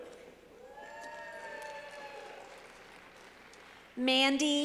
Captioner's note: clapping